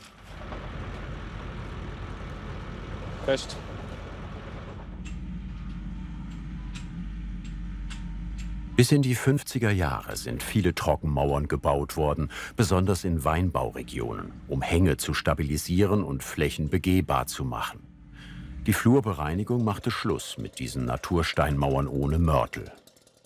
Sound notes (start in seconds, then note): 0.3 excavator humming; 4.8 rhythmic hammering